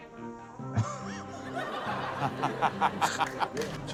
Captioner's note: laughs